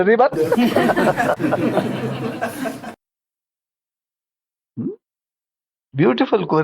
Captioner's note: laughs